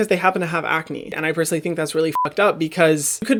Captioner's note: beep